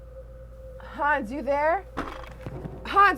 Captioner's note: object thudding